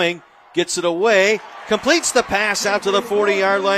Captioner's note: applause